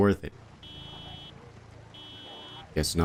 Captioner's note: car alarm beeping